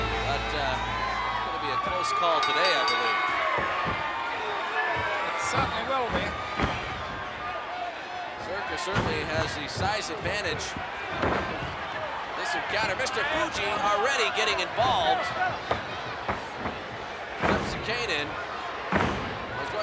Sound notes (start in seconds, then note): 3.4 bell ringing; 3.4 footsteps plodding; 13.0 body thudding; 18.3 blows thudding